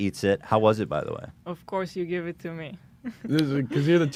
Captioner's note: laughs